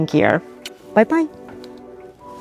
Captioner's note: kisses